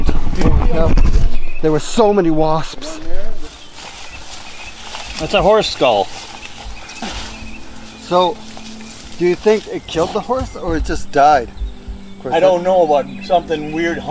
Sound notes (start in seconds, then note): 3.3 leaves rustling